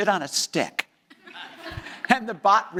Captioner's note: audience laughing